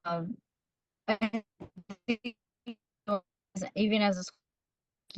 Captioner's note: audio warbles